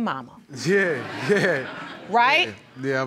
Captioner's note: audience laughing